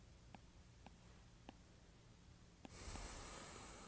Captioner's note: stylus tapping